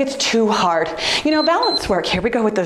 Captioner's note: timer beeps